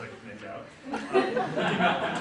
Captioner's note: audience laughs